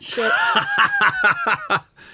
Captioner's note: laughing